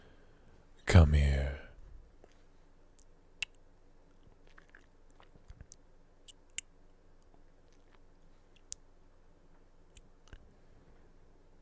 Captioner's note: kiss